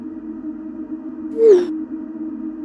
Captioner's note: ominous Tone; notification Sound